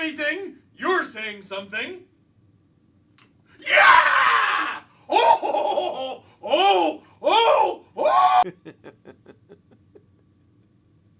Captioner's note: laughter